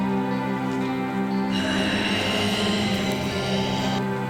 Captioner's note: growling